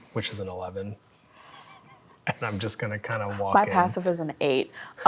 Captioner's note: chuckles